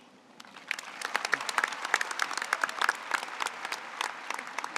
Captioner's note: audience applauds